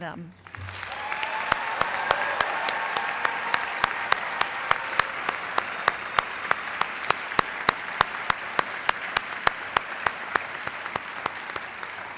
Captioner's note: applause